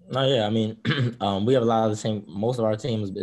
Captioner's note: throat clearing